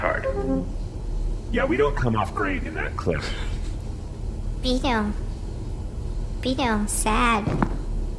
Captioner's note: playback-end noise; quietly; slow footsteps, cookie-eating noises, distressed noises from the crew